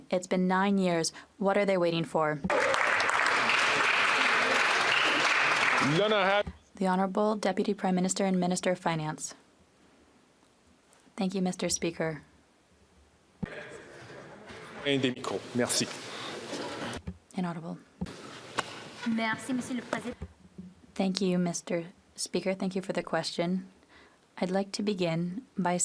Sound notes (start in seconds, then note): 5.9 applause